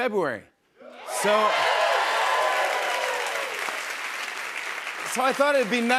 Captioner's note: cheers and applause